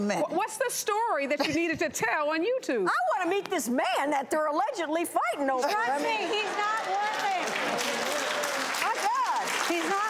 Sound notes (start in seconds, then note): 7.8 audience applauding